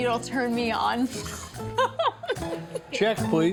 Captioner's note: laughing